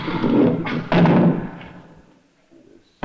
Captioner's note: clunking